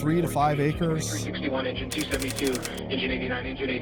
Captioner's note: radio